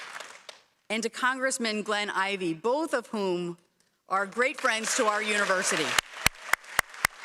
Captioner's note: applause